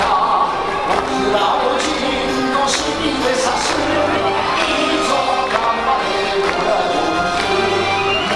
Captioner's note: chanting and cheering